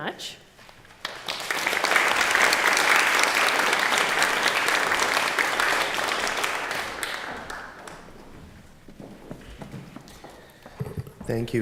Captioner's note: applause